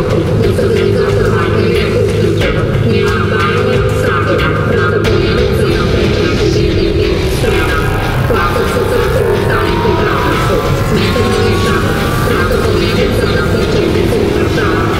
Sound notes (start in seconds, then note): 0.0 female robot voice; 9.6 buzzing gets louder; 13.5 laser sounds more intense